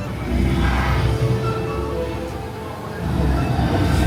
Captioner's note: monster roaring